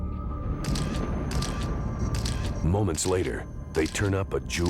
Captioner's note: camera shutter clicks